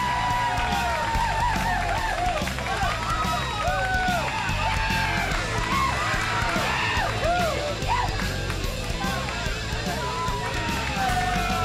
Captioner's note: crowd cheering